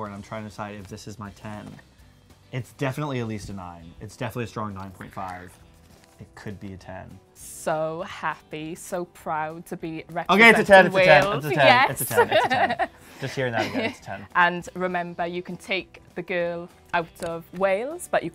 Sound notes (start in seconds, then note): 11.8 laughs